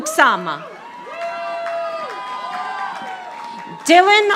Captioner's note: audience applauding